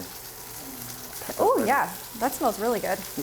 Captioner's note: steak sizzling